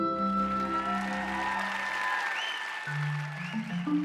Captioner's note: cheers and applause